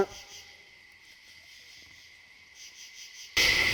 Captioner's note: person shouting